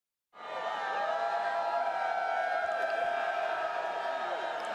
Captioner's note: cheering